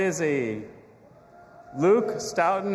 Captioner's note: audience applauding and cheering